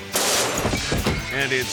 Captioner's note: sparks zapping